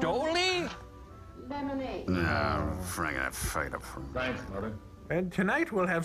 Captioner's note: grumbling